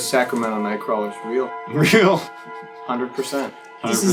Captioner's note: laughs